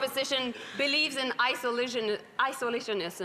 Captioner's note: speaking French